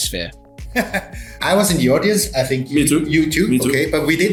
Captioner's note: laughter